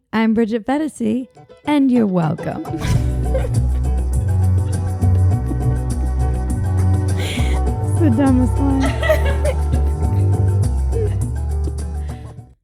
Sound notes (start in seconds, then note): 1.8 light upbeat music; 2.8 laughs; 10.9 both laughing